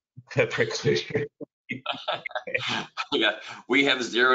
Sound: laughter

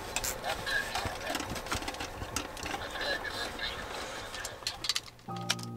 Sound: radio exchange

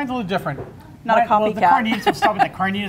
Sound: laughs

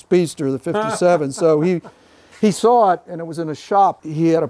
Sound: laughing

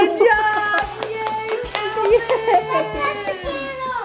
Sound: claps

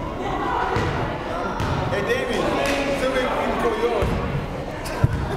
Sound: crowd talking and joking

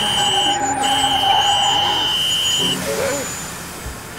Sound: tires screeching

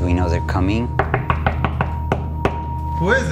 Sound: knocking

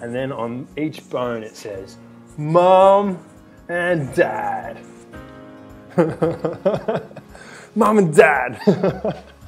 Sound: laughs

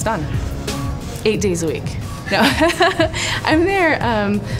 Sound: laughing

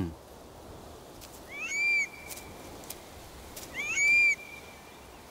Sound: curlew calls

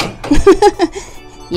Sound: laughs

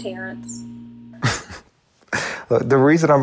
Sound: Terrance giggles

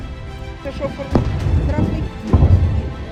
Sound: explosion

